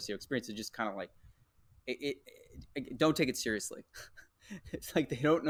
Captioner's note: laughs